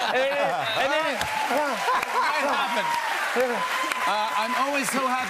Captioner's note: cheers and applause